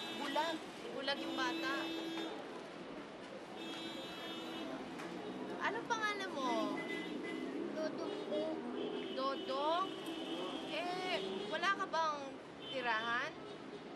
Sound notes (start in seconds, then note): none